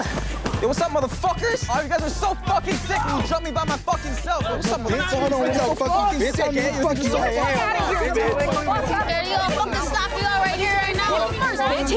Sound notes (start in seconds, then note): 6.8 yelling